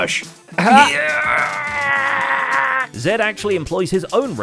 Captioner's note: straining noises